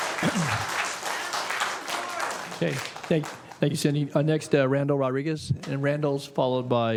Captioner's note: applause